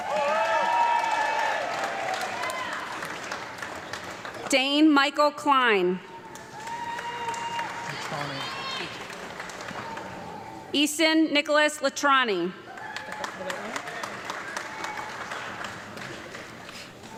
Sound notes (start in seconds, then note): 0.0 audience clapping and cheering; 6.1 audience clapping and cheering; 12.7 audience clapping